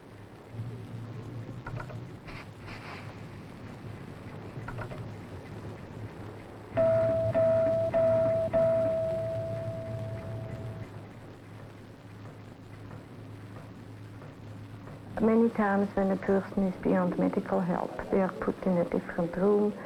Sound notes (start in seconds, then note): 2.4 respiration device expelling air; 4.3 clock ticking; 6.8 dinging bell; 10.7 machine pulsing